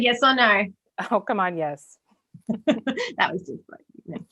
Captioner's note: laughs